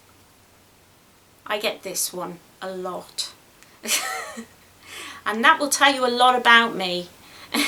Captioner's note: laughs